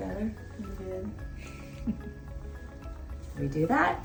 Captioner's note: giggles